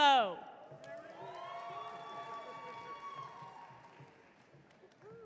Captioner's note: audience cheering